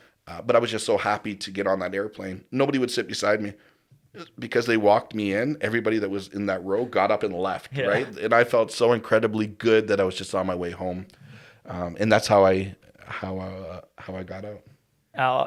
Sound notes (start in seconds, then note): 7.7 laughs